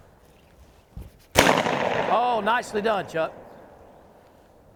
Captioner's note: gunshot cracks